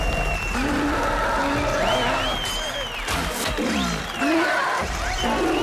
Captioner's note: cheers and applause; growling